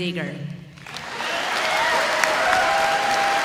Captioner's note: audience applauding